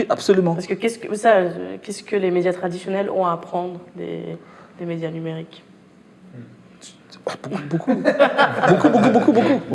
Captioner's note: laughs